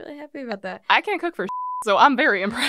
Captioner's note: beep